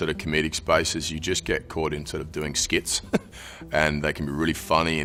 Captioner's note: chuckling